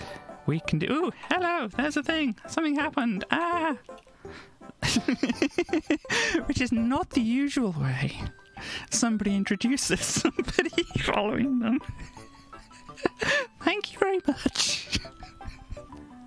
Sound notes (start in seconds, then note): 4.8 laughs